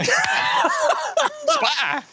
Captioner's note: laughs